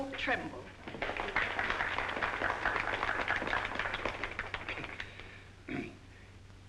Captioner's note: audience applauding